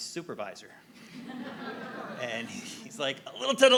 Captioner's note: audience laughing